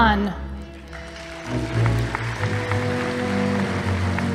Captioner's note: audience applauding